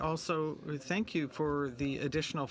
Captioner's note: speaking in french